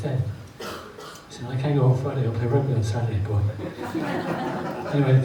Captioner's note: audience laughs